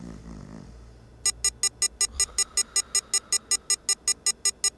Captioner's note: alarm beeping